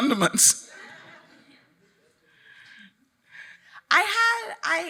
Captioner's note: audience laughing